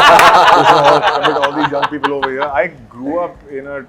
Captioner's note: laughs